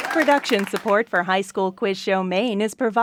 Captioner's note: voiceover